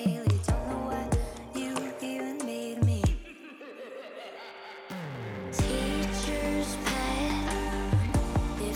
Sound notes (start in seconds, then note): 3.2 evil laugh